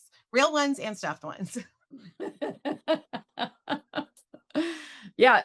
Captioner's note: laughs